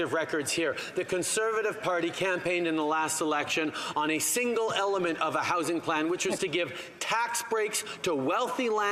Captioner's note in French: voix de l'interprète